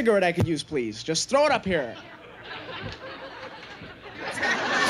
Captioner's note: audience chattering; audience laughing